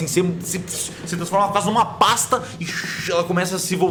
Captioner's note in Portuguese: shhh